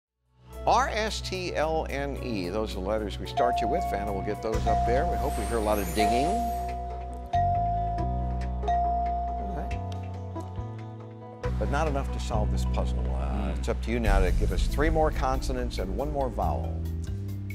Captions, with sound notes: Vanna will get those up there. We hope we hear a lot of dinging. [ Bell dinging ] Alright. But not enough to solve this puzzle. Hmm. It's up to you now to give us three more consonants and one more vowel.